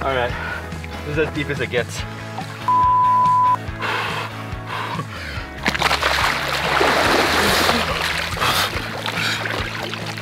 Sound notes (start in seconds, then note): 3.7 panting; 5.6 water splashes